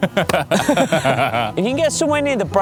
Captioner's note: laughing